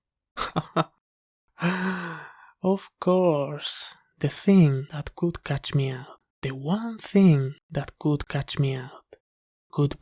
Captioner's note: laugh